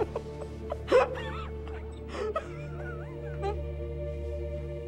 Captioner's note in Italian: liz piange